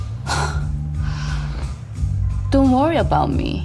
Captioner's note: scoffs